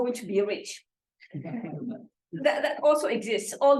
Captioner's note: laughter